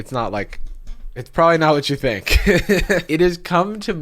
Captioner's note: laughs